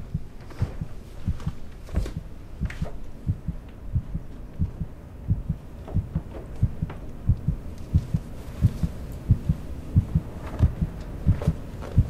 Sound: heart beating

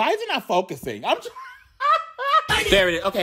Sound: laughing

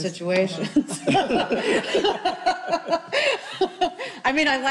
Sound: group laughing

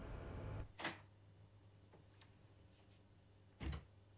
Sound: door opens

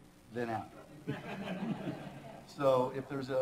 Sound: laughter

